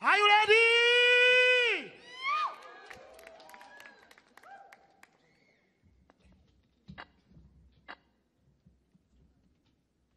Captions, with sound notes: - Are you ready? [audience cheers]